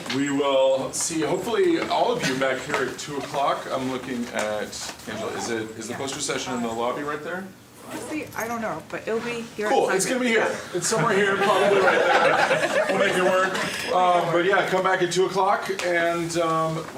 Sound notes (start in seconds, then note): 12.5 laughing